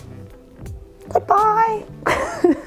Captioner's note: upbeat music; laughs